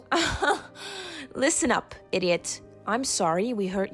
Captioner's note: laughs